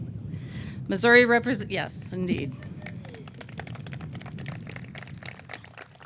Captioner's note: audience clapping